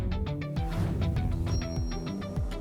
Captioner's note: whoosh